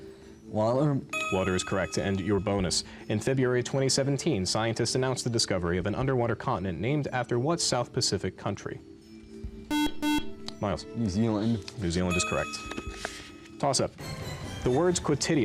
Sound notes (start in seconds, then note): 9.7 beep